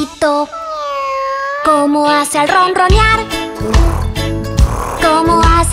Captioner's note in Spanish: Maullido; Ronroneo